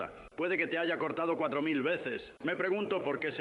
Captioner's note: speaking in foreign language